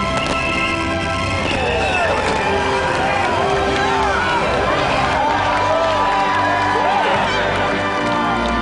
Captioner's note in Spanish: Aplausos